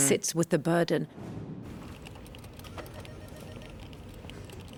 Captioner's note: air whooshing